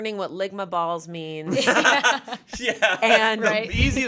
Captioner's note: everyone laughs